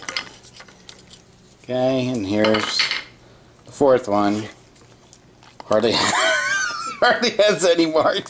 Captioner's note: laughing